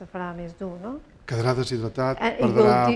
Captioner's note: speaking spanish